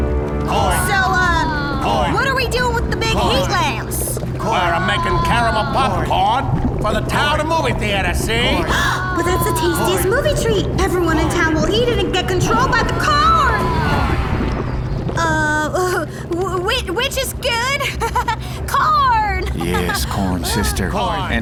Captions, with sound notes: So, uh, what are we doing with the big heat lamps? We're making caramel popcorn for the town movie theater, see? [gasp] But that's the tastiest movie treat! Everyone in town will eat it and get controlled by the corn! Uh... W-which is good. [nervous laugh] Coorn! Yes, Corn Sister.